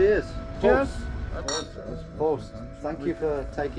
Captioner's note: glasses clink